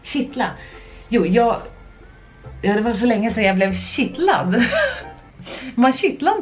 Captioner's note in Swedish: skratt